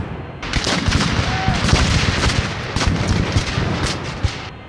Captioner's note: guns fire